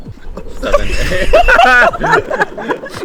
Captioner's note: laughs